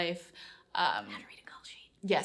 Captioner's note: whispers